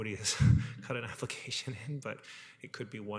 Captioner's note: chuckles